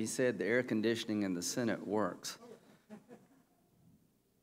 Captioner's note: laughter